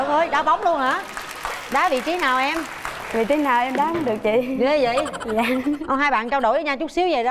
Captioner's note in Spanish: Aplaudir